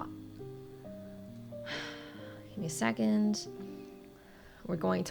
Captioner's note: sighs